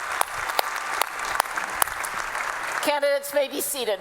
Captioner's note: applause